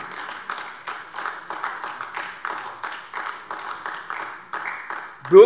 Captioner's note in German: Beifall AfD